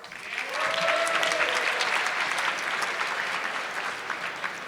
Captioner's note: audience clapping